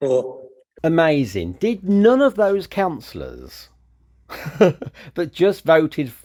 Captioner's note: laughs